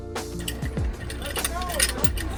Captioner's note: metal clangs together